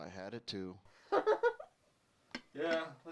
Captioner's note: laughs